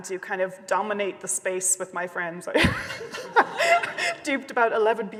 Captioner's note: laughs